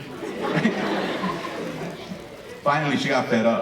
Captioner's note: audience laughing